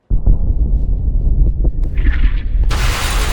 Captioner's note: deep thunder rumbles; gunshots whizzing; thunder claps